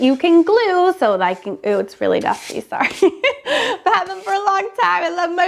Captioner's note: laughs